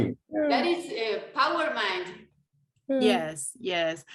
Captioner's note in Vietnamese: tiếng Tây Ban Nha